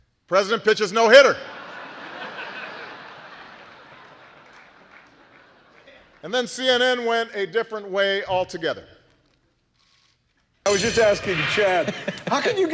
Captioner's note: laughter